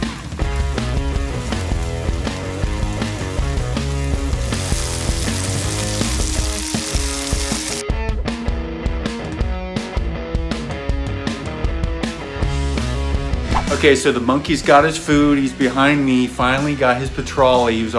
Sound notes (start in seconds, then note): 5.1 sizzling; 13.5 whip cracking